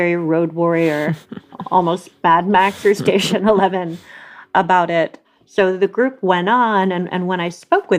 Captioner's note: laughs